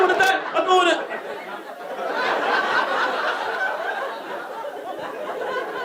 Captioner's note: audience laughing